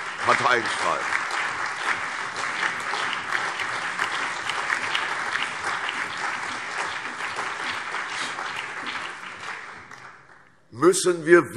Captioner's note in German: Allgemeiner Beifall